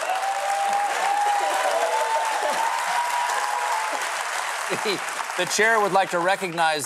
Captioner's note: laughter